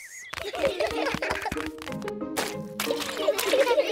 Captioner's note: all giggling